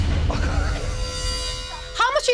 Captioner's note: laughs